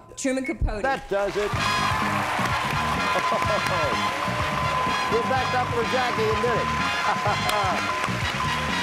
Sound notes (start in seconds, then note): 1.1 cheers and applause; 1.2 theme music playing